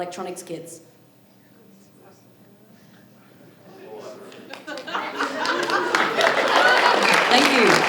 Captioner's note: audience laughing